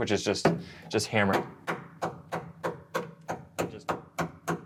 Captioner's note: tool scraping